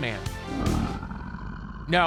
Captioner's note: growling